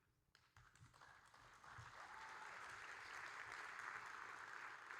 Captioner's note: audience applauding